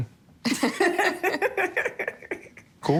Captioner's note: laughter